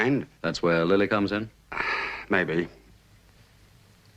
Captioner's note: sighing